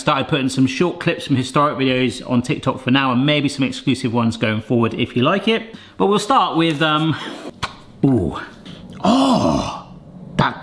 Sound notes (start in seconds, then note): 7.6 lid pops